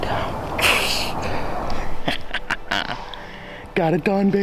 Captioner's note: laughs